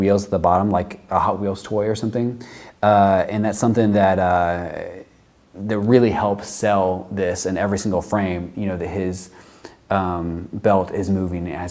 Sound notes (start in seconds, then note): none